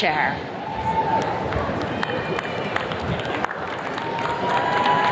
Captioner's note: attendees cheers and claps